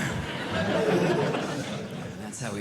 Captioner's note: audience Laughing